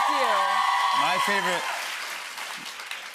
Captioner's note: cheers and applause